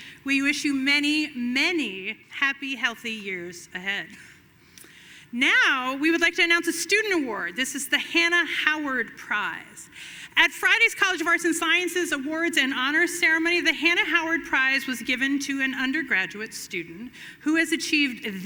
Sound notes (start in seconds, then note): none